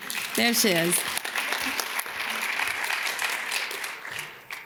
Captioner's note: audience claps